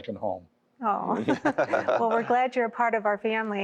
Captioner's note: laughter